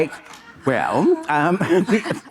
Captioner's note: Monica laughing